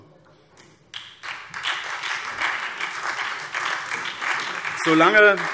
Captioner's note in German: Beifall SPD